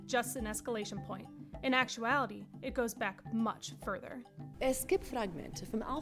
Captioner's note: woman speaking in German